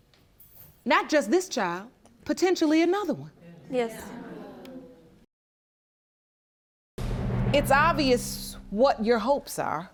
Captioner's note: none